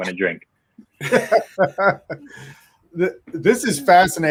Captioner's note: laughing